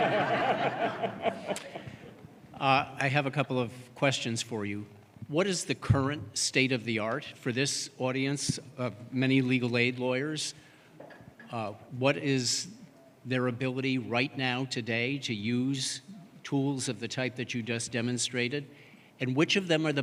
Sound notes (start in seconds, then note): 2.7 laughter